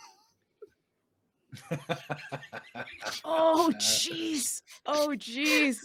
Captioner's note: laughing